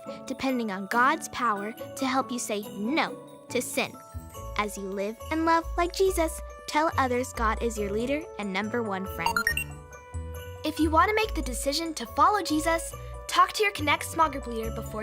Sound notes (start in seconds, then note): 9.3 beeping